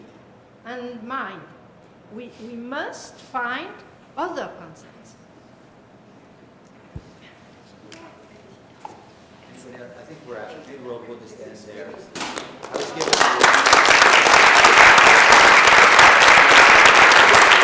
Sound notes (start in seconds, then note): 12.3 applause